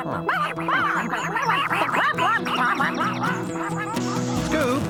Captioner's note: ducks Quacking